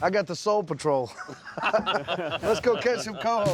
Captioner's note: laughter